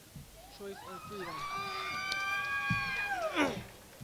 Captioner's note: crowd cheering